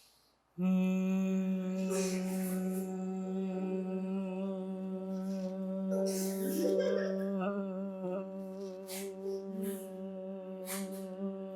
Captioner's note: breathing in; humming